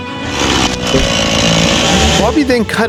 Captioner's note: chainsaw roaring